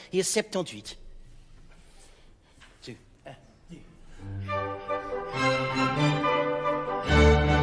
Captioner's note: playful orchestral music; speaking in French